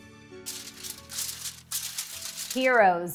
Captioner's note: paper crumpling